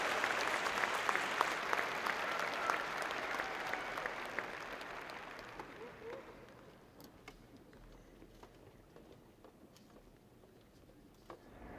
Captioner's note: applause